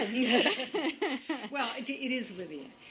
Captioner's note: laughter